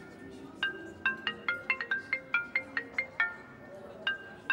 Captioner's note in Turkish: Telefon çalıyor